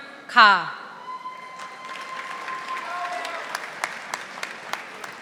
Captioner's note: audience applauding